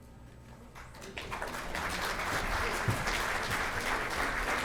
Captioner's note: applause